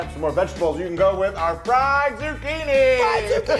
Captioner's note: laughs